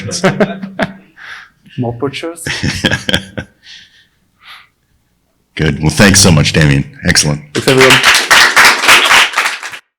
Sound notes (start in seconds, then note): 0.2 laughs; 4.0 laughing; 7.5 audience clapping